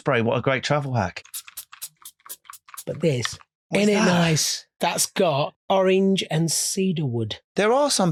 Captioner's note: spraying perfume